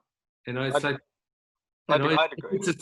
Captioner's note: murmuring